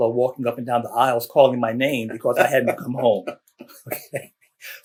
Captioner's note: laughter